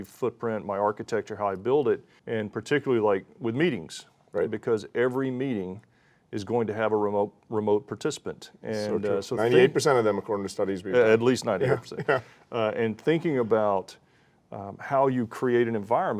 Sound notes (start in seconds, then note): 11.5 chuckles